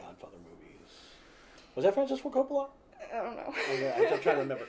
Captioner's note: laughs